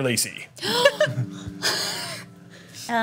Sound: gasps

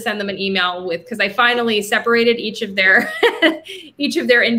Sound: laughing

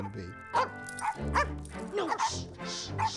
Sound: barking

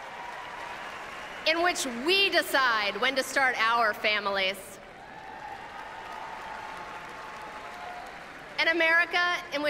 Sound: applause

